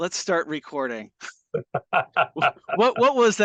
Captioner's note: laughing